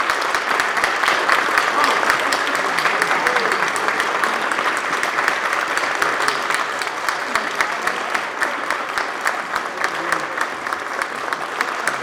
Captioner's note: applause